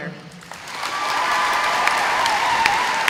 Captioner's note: audience applauding